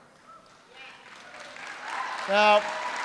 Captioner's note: applause